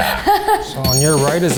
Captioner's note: laughs